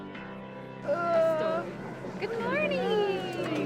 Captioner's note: groans